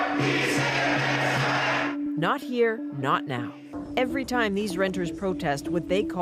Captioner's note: chanting